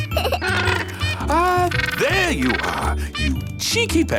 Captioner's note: giggles; honking